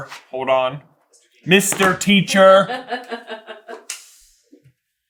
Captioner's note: laughing